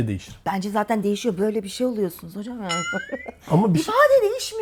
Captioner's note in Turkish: kahkaha